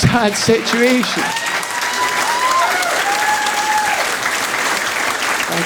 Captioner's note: audience applauding